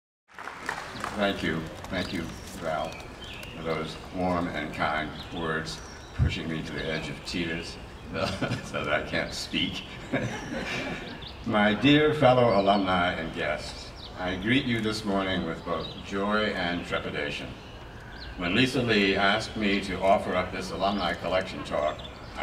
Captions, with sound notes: Thank you. Thank you, Val, for those warm and kind words, pushing me to the edge of tears (laughs) so that I can't speak. (laughs) My dear fellow alumni and guests, I greet you this morning with both joy and trepidation. When Lisa Lee asked me to offer up this alumni collection talk,